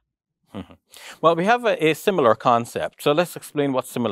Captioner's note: chuckles